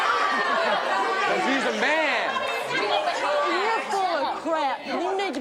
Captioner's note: audience uproar